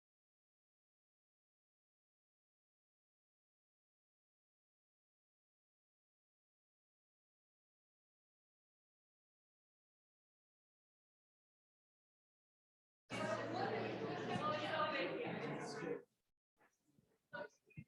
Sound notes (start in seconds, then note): 13.1 background chatter